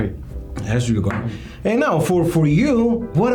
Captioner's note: faintly speaking